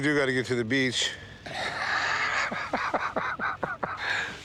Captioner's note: both chuckling